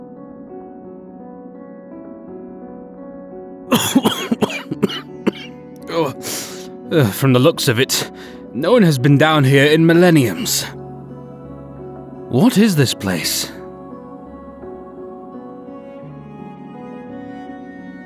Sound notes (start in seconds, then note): 3.7 coughs from all the dust